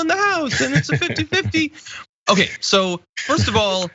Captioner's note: laugh